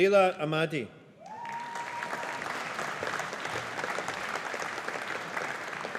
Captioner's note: audience applauding